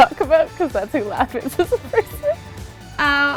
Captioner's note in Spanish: Se ríe